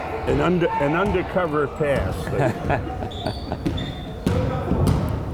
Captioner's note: laughing